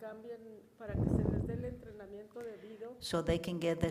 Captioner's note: woman speaks in foreign language